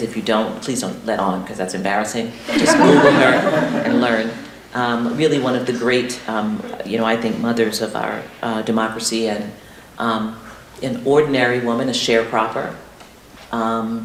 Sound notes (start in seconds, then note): 2.4 laughter